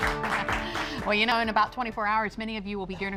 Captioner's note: applause